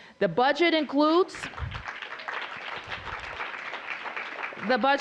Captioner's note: applause